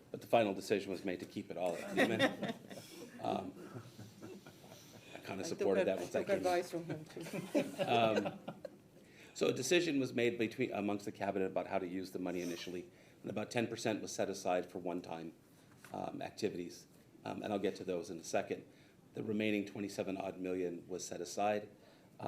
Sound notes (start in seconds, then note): 1.7 people laughing